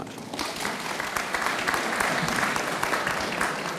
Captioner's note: audience applauds